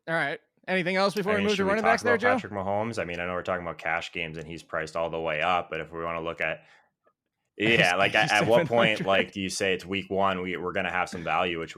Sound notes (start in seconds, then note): 7.6 laughs